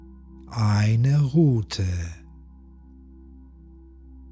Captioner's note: german